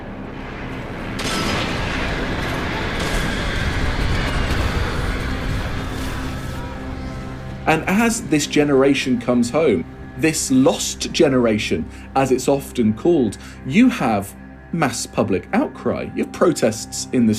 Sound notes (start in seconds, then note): 0.4 soundbite of explosion